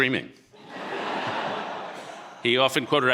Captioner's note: audience laughing